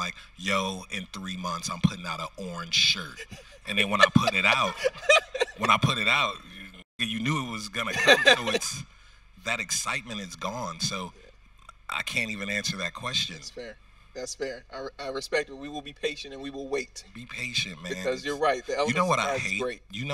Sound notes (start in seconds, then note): 4.9 host laughing